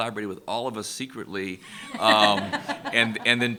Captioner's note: laughter